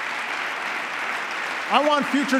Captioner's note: applause